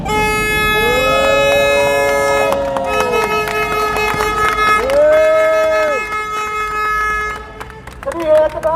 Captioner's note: applause